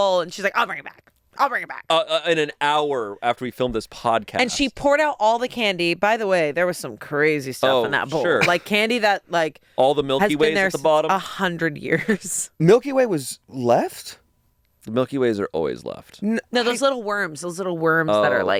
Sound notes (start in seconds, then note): 12.2 laughs